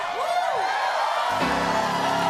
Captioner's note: applause